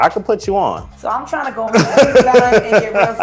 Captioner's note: laughter